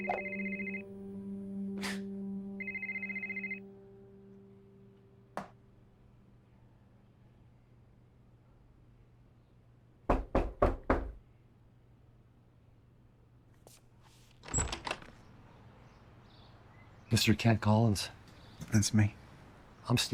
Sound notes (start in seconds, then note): 1.8 Kent scoffing; 10.1 person knocking